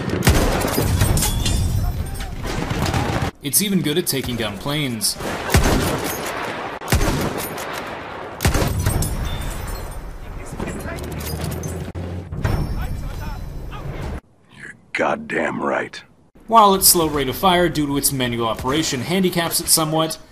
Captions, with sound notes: It's even good at taking down planes. (angry Walter White noises) While its slow rate of fire due to its manual operation handicaps it's somewhat,